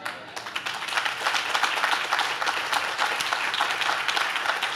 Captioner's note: audience claps